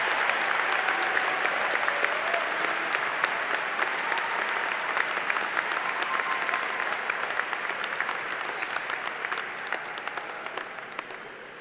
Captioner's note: applause